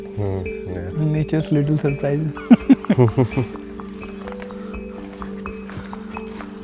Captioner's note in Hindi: हंसी